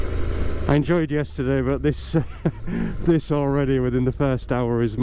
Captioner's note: laughter